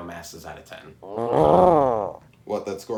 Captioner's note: stomach growls again